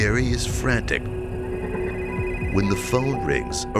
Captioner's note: telephone ringing